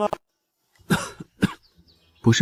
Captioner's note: cough cough